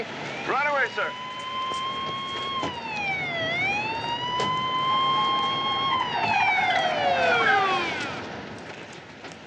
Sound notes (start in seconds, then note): 1.5 police siren blares